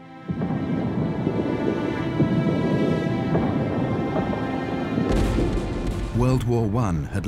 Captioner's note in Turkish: çoklu patlamalar